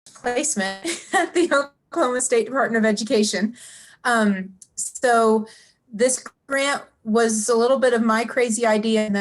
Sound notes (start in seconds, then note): 0.8 laughs